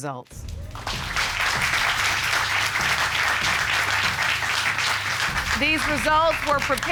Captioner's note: applause